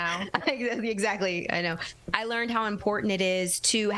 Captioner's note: laughter